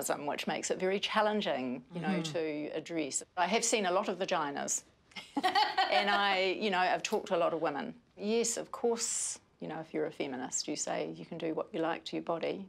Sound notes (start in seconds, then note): 5.3 laughing